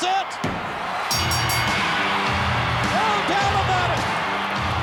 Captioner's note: bell ringing; upbeat rock music